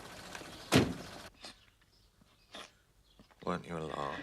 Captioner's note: terisak